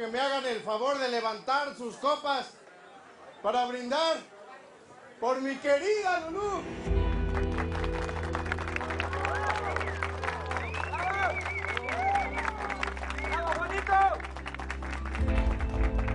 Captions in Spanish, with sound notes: - QUIERO QUE ME HAGAN EL FAVOR DE LEVANTAR SUS COPAS PARA BRINDAR POR MI QUERIDA LULU. [Aplausos] - !BRAVO, JUANITO!